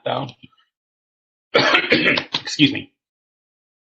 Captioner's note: coughing